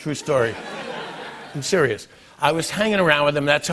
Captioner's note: laughter